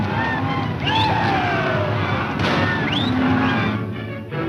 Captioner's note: whistling; tense music